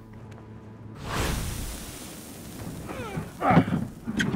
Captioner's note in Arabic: الشخير